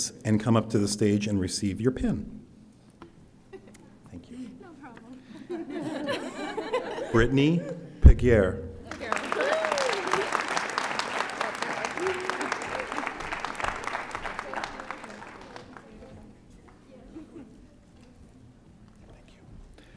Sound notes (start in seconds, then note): 5.3 audience laughing; 8.9 audience applauding